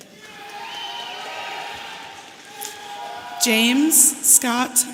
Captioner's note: audience cheering